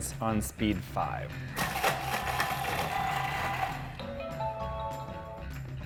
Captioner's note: Thermomix whirring; Thermomix chiming